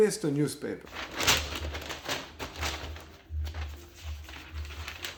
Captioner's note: newspaper crackles